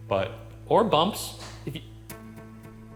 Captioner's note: object bumps